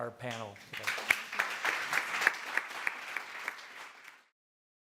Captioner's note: applauding